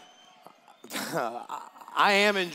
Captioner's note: cheers